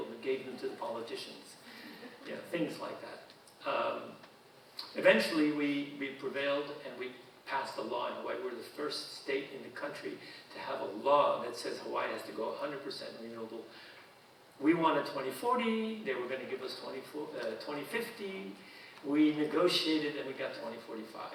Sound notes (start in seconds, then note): 1.7 audience chuckling